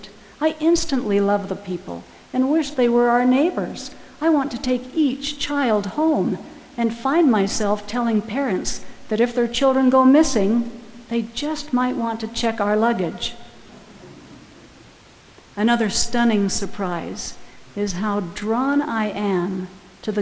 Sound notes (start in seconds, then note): 13.7 audience laughing